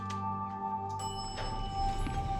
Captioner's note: elevator pings